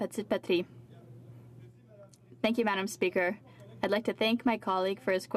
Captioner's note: speaking french